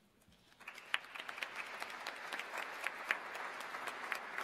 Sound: audience applauds

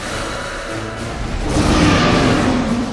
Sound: Rayquaza roars

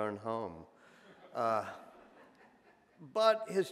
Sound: audience laughs

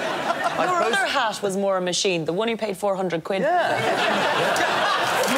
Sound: applause

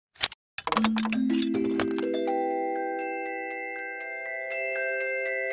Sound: light chimes

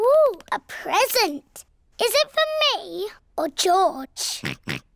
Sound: oinks

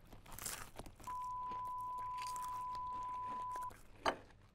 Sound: obnoxious chewing; TV dead air tone

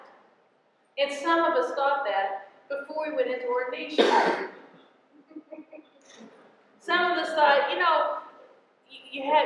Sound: laughter

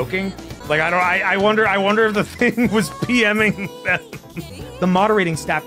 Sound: laughs

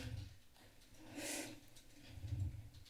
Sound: breathes

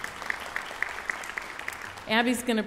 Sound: audience applauds

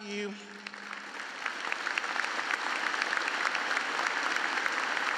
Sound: audience clapping

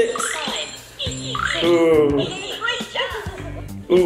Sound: monkey hooting

